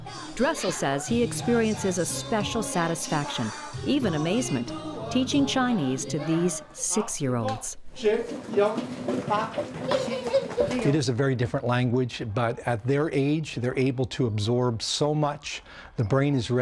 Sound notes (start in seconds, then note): 8.8 speaking Mandarin